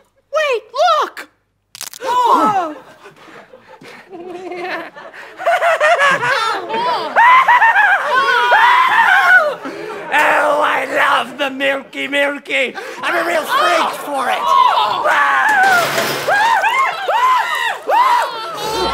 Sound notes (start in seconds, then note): 1.7 crack; 2.0 collective gasp; 4.2 soft cackling; 7.0 loud cackling; 15.6 crashing; 16.2 screaming